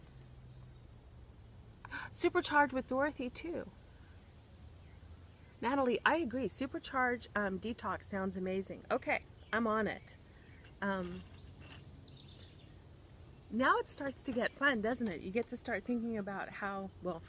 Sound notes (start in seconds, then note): 0.0 birds chirping; 2.4 gasps; 11.2 birds chirping